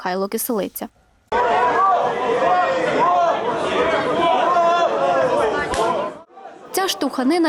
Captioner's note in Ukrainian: Галас